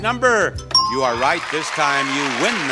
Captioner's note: bell dings